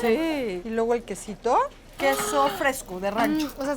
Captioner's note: speaking Spanish